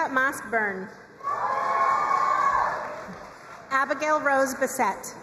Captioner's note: crowd cheering and applauding